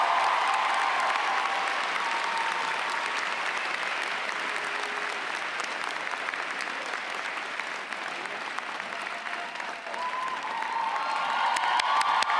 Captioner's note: applause